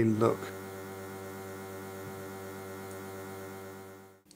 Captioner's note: machine buzzing